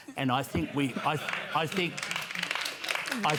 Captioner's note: laughter, applause